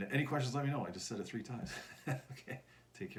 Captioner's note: chuckles